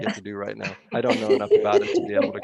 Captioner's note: laughter